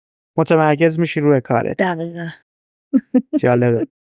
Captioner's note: laughs